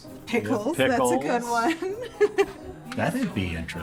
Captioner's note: chuckles